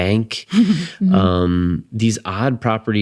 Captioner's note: laughing